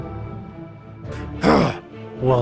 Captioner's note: Robotnik Grunts